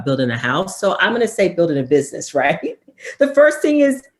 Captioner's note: laughs